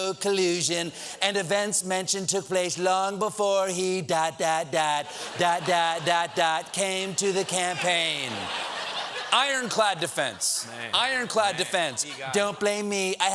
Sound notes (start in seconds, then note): 5.0 laughter